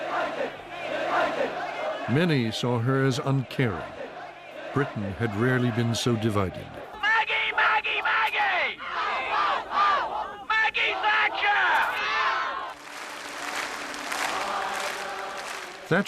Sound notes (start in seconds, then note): 0.0 crowd chanting "United"; 7.1 through bullhorn; 8.3 crowd chants in response; 10.8 crowdyells "0ut!"; 12.7 applause